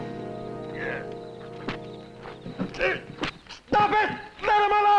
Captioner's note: grunting